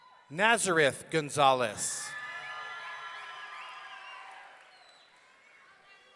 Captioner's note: audience cheering